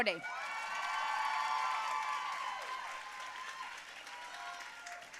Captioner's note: audience cheering and applauding